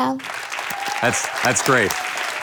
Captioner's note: audience applauds